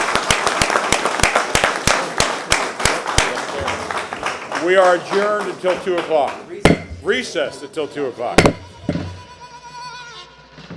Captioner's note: applause